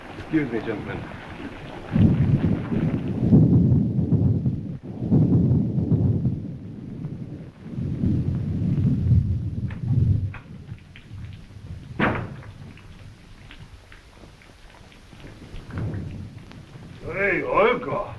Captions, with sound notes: Excuse me, gentlemen. (thunder roaring) - Oh hey, Olga.